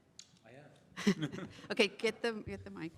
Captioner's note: chuckles